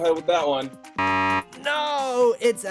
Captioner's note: beep